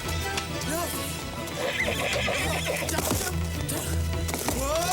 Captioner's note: horse neighing